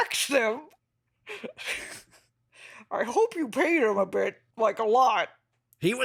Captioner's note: laughing